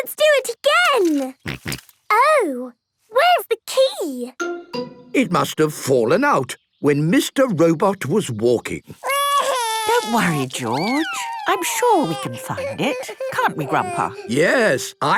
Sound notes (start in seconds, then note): 1.5 snorting; 9.2 George wailing